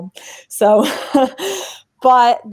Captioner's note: laughs